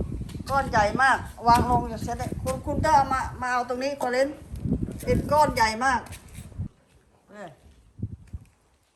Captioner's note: speaking foreign language